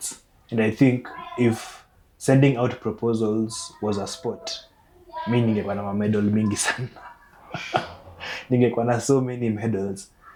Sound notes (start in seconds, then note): 7.1 laughing